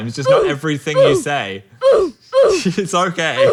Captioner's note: "oof" soundbite repeating